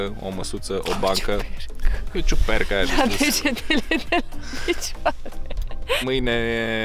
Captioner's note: laughing